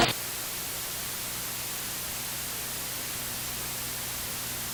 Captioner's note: television static